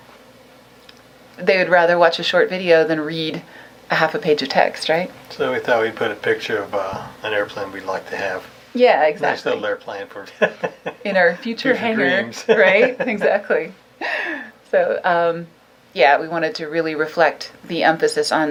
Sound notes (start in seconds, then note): 10.2 laughs